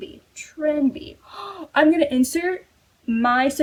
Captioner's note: gasp